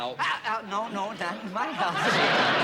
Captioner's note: laughter